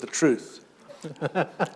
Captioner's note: chuckle